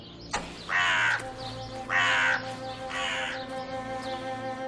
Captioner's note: birds singing; crow singing